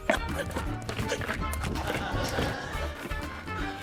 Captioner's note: grunts